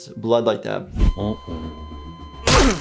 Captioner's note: beep flat lines; squishy thud